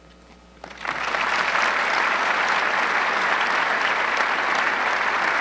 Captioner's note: audience clapping